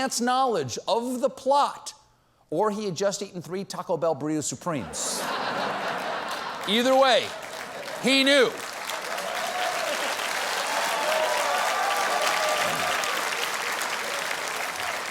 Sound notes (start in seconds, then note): 4.8 laughter; 10.8 cheers and applause